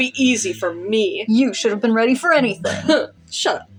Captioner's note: harrumph